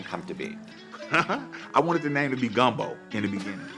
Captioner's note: laughter